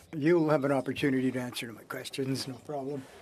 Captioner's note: speaking French